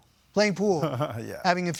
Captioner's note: laughing